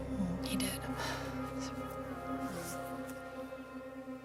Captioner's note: sighs